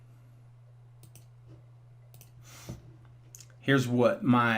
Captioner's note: mouse clicking